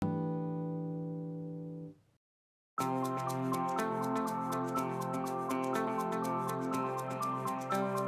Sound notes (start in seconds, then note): 0.3 chime sounds; 2.8 upbeat music